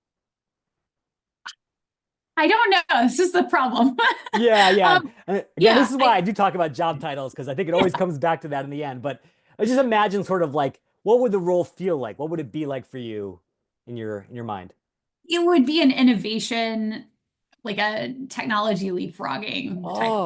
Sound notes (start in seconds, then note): 3.9 laughs